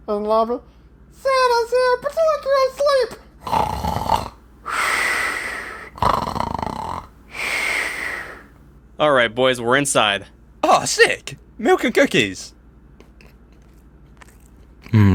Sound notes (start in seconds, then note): 3.1 snoring; 13.0 eating noises